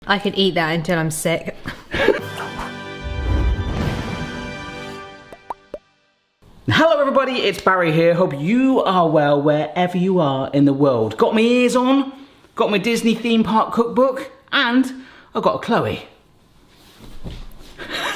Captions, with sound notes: - I could eat that until I'm sick. (triumphant music) (popping noises) - Hello, everybody! It's Barry here. Hope you are well, wherever you are in the world. Got my ears on. Got my Disney Theme Park Cookbook. And I got Chloe.